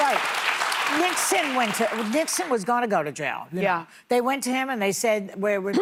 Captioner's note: applause